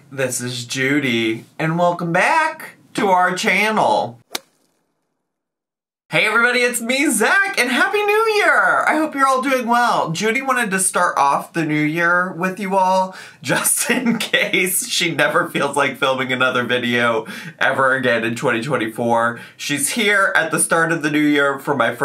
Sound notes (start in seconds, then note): 4.3 logo thuds